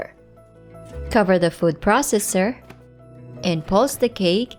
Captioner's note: lid thuds